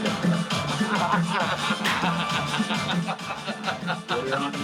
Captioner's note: laughs